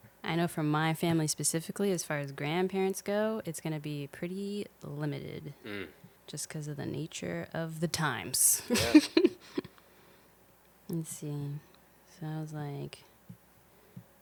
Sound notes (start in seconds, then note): 8.7 laughing